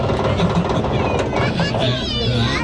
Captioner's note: laughing